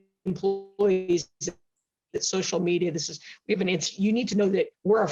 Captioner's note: mic cracking